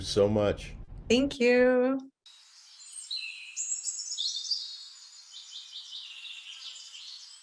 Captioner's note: birds chirping